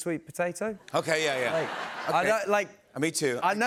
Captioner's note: laughter